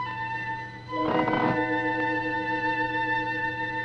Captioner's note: creaking